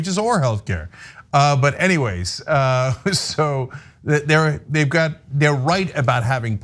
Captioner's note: laugh